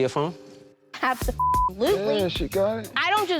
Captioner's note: beep